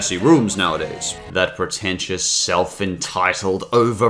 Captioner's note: normal voice